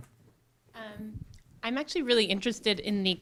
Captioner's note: voiceover